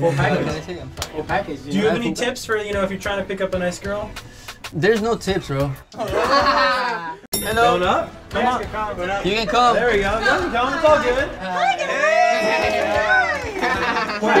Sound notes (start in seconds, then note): 5.9 laughs; 7.0 elevator dings